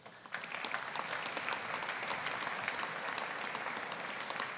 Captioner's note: audience applauding